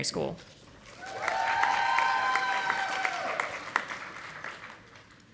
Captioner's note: audience applauding